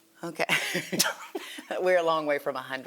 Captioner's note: chuckles